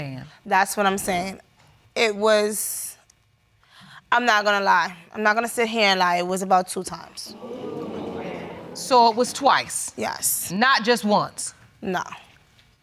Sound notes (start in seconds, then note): 7.2 audience groans